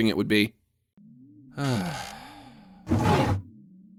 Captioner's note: Max sighs